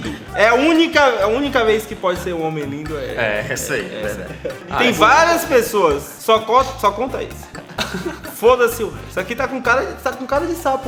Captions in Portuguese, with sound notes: É a única... É a única vez que pode ser um homem lindo, é... -É, essa aí. Verdade -E tem várias pessoas, só con... Só conta esse *Risos* -Foda-se o resto. Aqui tá com cara de... Tá com cara de sapo